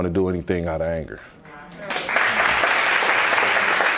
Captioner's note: audience applauds